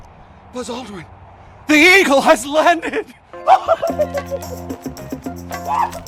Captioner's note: laughs maniacally; bouncy music